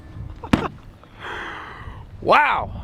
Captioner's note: laughing